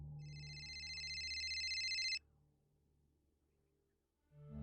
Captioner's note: phone ringing